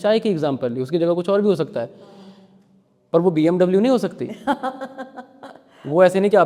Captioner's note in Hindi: हंसी